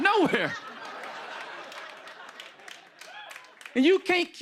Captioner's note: laughter